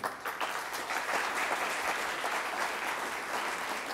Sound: applause

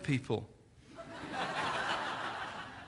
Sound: laughter

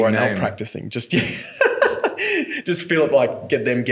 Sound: laughs

